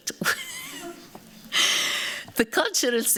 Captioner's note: laughter